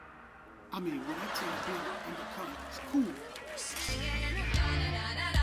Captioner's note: slow dramatic music continues; television chattering